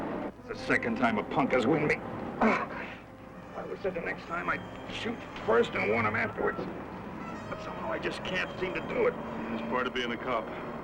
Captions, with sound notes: - It's the second time a punk has hit me. (groans) I'll promise, the next time I shoot first and warn him afterwards. But somehow I just can't seem to do it. - It's part of being a cop.